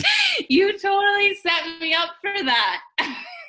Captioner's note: laughs